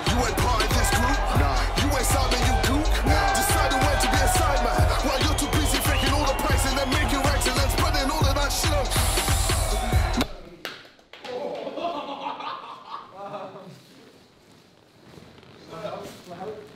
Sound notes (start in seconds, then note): 0.2 cheering continues; 5.9 cheering continues; 11.2 laughing